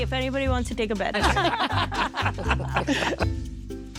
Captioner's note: laughing